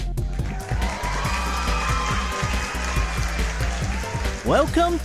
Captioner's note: canned Applause